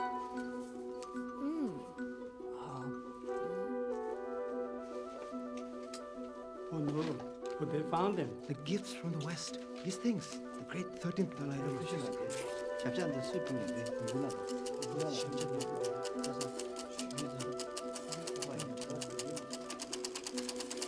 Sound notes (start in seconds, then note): 10.9 Both Continue In Tibetan; 12.9 clicking; 12.9 monks Murmuring